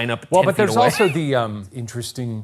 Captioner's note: chuckles